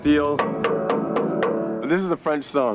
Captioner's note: fist banging steel